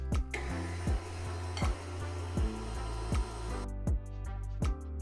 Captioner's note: blender whizzing; soft music